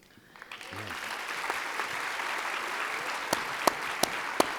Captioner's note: audience applauding